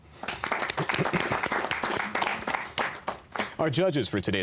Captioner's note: applause